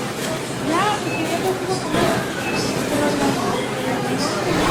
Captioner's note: checkout beeping